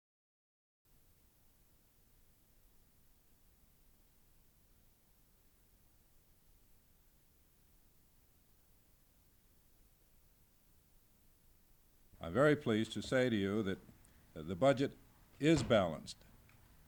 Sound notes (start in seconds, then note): 0.9 silence